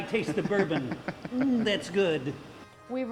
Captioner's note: laughing